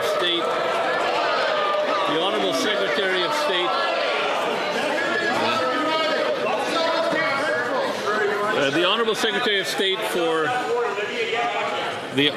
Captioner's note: some Applause